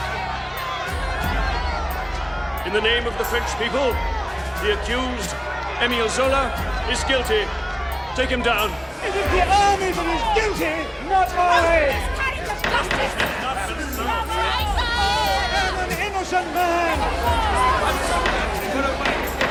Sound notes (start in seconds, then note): 12.2 crowd clamoring; 17.8 gavel banging